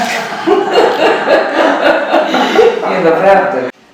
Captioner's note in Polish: śmiech